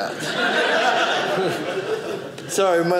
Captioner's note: audience laughing